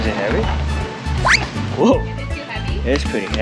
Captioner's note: jacket squeaks